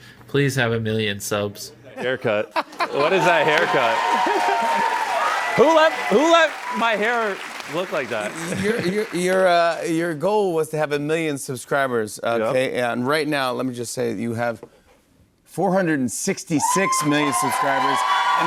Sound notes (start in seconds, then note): 2.7 cheers and applause